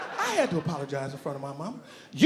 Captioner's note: audience laughing